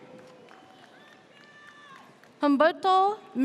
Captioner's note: audience cheers